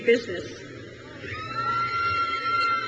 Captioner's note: crowd cheers